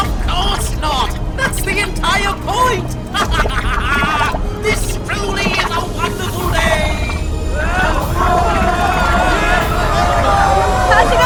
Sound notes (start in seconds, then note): 2.6 laughing; 7.7 all yelling